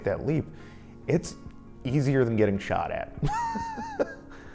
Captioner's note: laughs